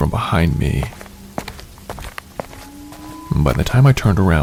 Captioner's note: footsteps